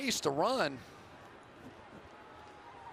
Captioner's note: cheering